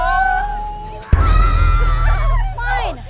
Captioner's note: screaming